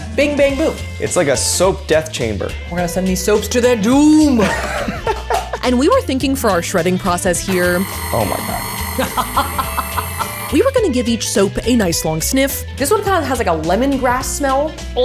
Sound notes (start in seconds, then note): 4.4 laughing; 7.1 appliance whirling; 9.1 laughing